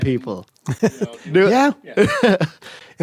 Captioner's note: laughs